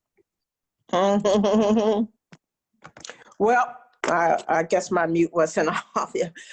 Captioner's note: laughs